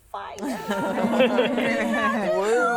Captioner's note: laughing